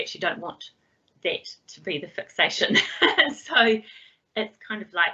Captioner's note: laughs